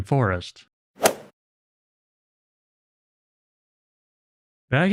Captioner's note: golf ball hit sound effect